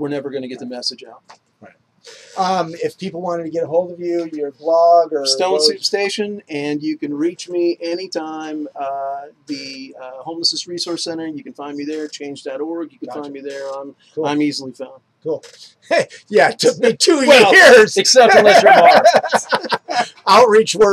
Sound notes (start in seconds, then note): 18.3 laughter